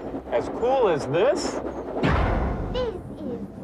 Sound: loud short bang

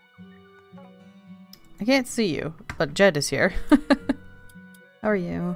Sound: laughs

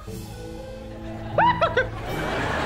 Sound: whimpering

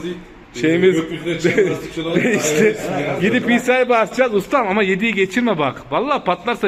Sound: laughter

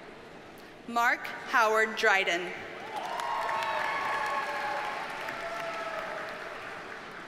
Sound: audience cheers and applauds

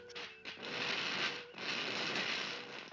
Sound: fizzling

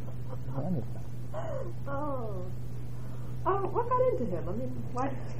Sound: laugh

